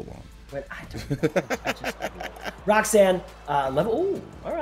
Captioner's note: laugh